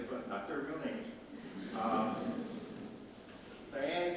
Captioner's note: audience laughs